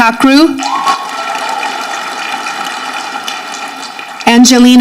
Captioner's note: audience clapping